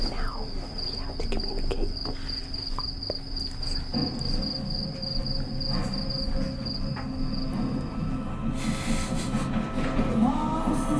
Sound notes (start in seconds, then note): 5.8 cicadas chirp; 8.8 laughs